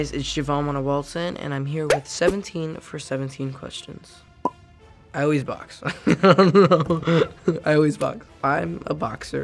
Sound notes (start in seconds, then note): 5.8 chuckles